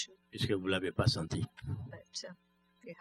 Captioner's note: speaking french